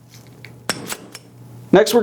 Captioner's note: banging